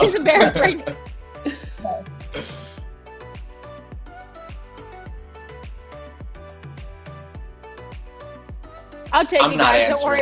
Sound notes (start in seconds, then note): 1.6 laughing; 3.1 soft upbeat music